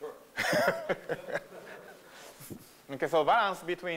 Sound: laughter

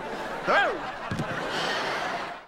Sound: sighing

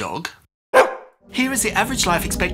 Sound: woof

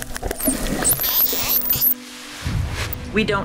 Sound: dolphin clicking

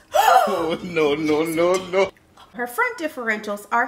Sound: gasps

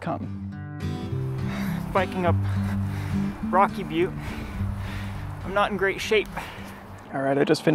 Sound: breathing heavily

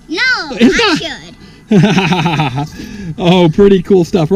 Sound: chuckles

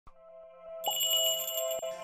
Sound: magical jingle

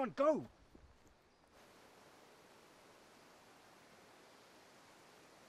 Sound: birds chirping

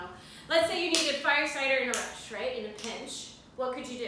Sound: snap

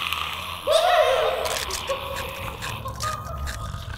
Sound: snarling; screaming; biting; snarling

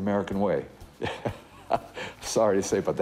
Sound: chuckles

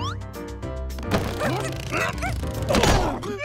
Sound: groaning

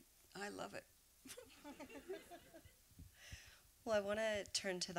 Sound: laughter

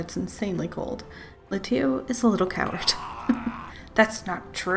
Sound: laughs

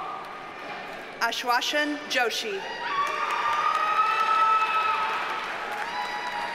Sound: audience cheers and applauds

